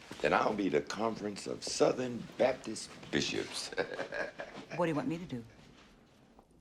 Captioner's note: chuckling